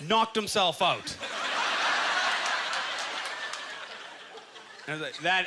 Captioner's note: audience laughter